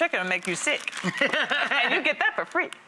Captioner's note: Rachael laughs